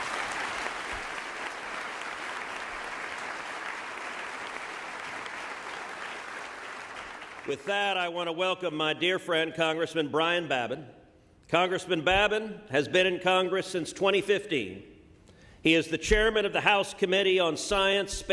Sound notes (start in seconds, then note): 4.3 applause